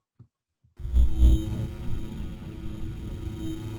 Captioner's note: buzzing